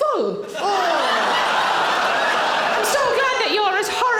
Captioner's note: audience laughing